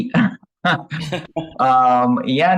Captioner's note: chuckles